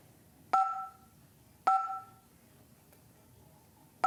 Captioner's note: beeps